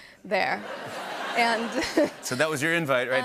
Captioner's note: laughter